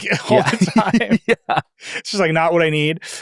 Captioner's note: people laughing